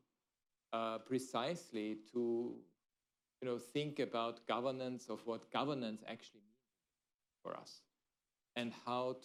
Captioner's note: off mic